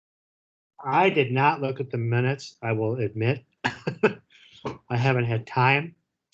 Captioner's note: chuckles